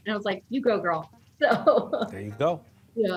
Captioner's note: chuckling